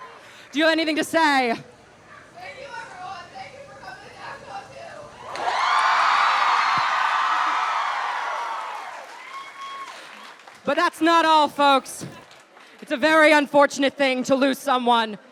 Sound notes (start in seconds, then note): 5.1 crowd cheers